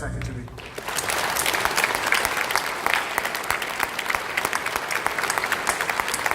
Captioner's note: applause